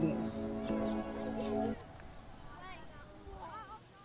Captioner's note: birds chirping